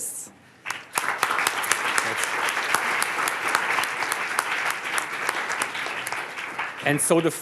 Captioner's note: applause